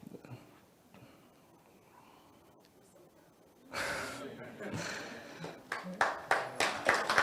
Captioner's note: sighs